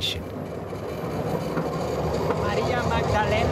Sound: train chuffing

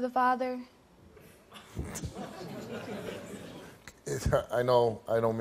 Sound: audience chuckles; laughs

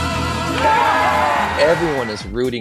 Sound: crowd cheers

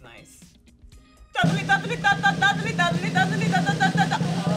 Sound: vocalizing

